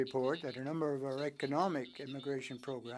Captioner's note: speaking French